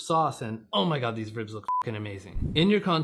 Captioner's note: beep